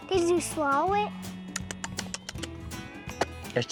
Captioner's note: smacking lips